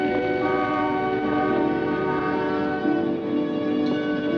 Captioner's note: gentle apprehensive music; car horn honking; gentle apprehensive music